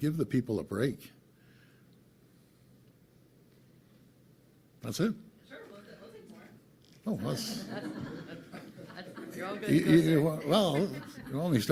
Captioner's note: laughter